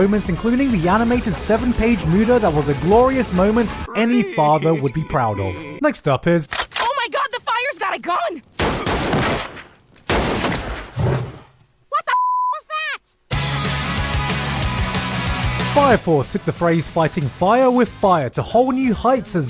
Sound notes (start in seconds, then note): 3.8 Dio's sad yet proud wryyy in the background; 6.5 cocking gun SFX; 8.6 bang